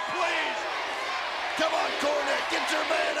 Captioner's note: audience chanting